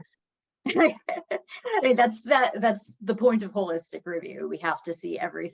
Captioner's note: chuckles